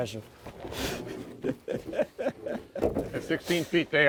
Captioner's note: laughing